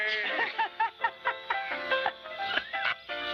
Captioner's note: laughs